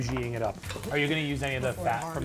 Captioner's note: onions sizzling